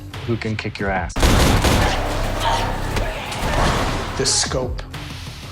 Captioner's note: gunshots blasting